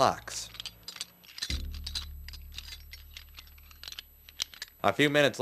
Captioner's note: metallic rattling